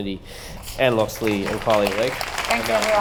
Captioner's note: applause